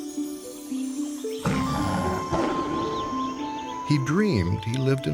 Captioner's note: birds chirping; tiger roaring